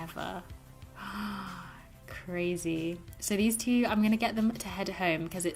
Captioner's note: gasps